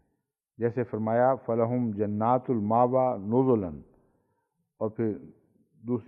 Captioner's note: Arabic